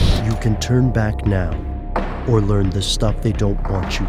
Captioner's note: voiceover